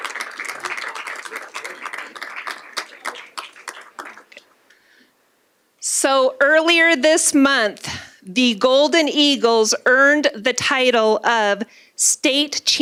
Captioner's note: applause